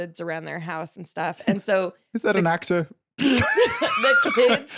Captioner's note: laughs